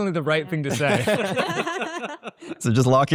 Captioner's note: all laughs